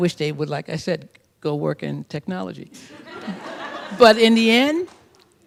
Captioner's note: laughter